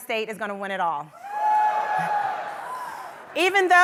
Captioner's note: audience cheers